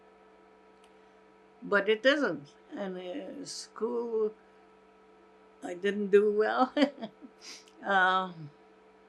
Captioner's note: laughing